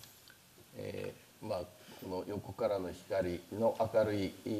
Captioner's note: speaking japanese